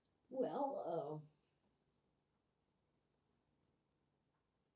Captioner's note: pauses 6 seconds